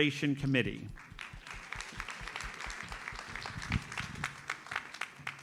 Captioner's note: audience applauds